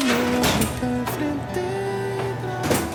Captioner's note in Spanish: Sonido al abrir la puerta